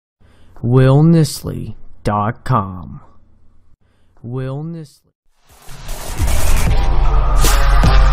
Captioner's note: voice-over